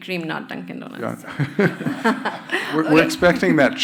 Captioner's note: crowd laughing